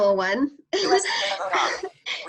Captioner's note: laughter